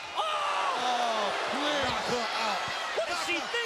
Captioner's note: Mike exclaims